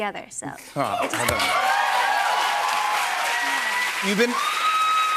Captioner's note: cheers and applause